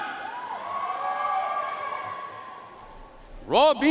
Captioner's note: audience cheering and applauding